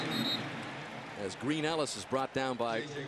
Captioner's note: whistle blows